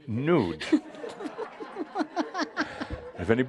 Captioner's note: laughter